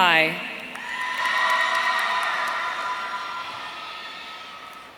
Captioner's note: audience cheering